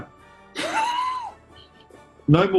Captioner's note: sniggering